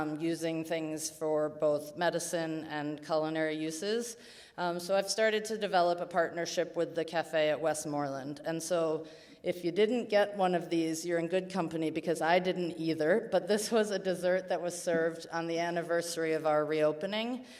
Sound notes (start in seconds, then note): none